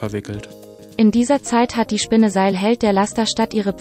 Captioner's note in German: Eine weibliche Computerstimme liest vor